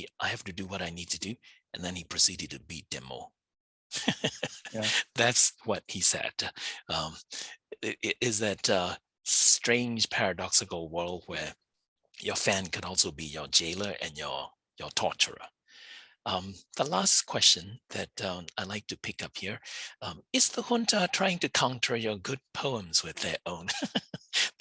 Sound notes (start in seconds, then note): 3.9 laughs